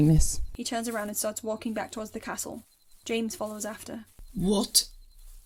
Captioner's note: footsteps start